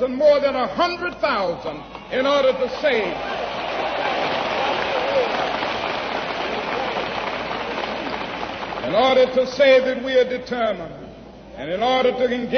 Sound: applause

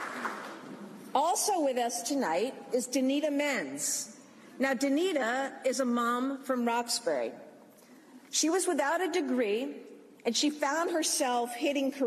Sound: applause

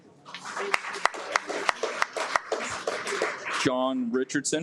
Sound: audience applauds

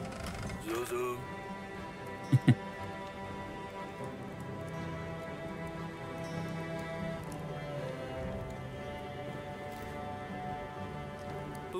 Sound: laughs

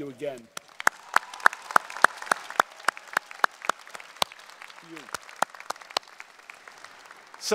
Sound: applause and Cheering

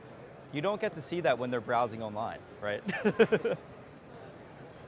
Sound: laughs

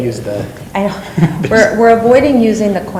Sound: laughs

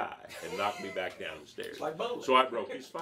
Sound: laughing

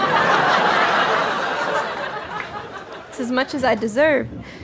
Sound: audience laughter

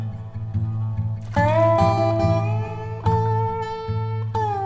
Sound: splashing

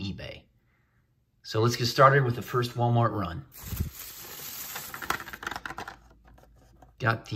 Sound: bag crinkles

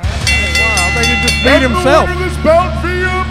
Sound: bell rings

